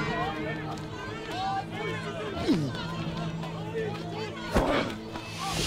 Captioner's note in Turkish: Hep bir ağızdan; Tekme sesi